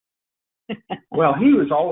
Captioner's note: laughs